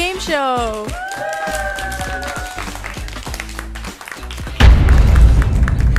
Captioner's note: everyone cheers and applauds